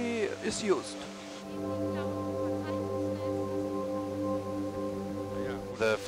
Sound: music/Radio chatter

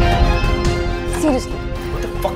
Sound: door opens

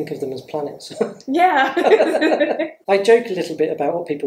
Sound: laughs

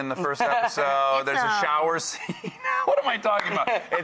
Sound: laughs

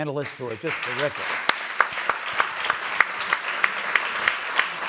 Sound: audience applauds

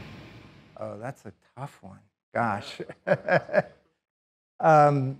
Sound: laughs

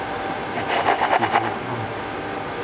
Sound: rubbing the cutters

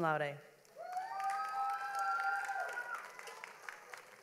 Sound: audience applauds

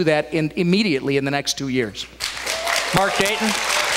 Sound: applause, cheers

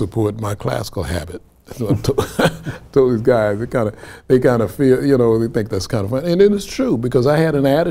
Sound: laughs

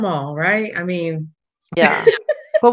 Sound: giggles

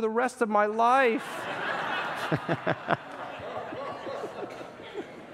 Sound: congregants laugh

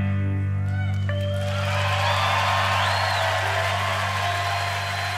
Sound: crowd cheering

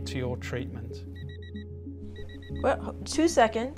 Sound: beeping

